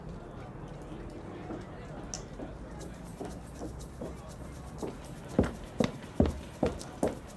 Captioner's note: group chattering; footsteps tapping